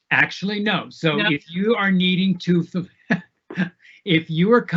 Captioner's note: laughing